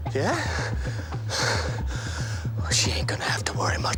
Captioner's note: Dean panting